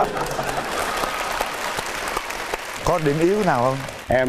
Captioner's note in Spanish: risas; aplauso